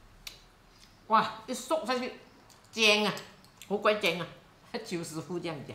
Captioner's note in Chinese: 廣東話